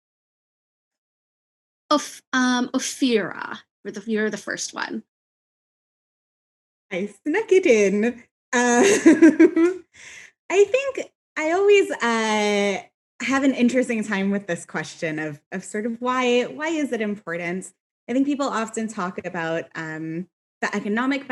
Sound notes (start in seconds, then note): 8.7 laughs